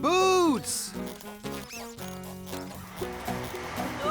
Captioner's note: mice & Shoes Squeaking